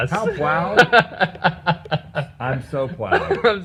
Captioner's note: laughing